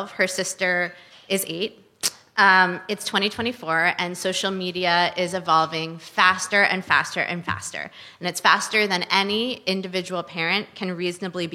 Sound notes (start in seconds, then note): none